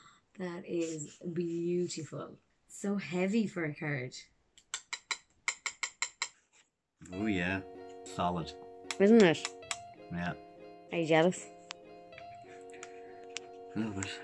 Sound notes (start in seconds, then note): 4.7 taps